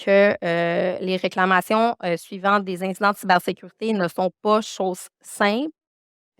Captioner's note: continues speaking French